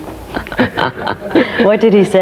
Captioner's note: laughing